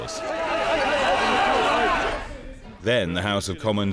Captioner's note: crowd yelling